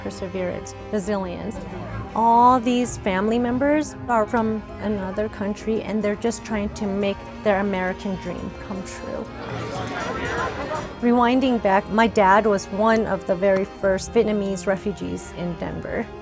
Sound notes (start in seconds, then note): 9.2 crowd Walla